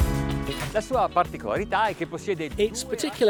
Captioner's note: speaking foreign language